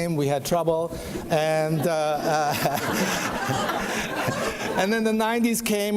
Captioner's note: audience laughs